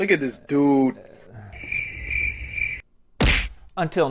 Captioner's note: cricket sounds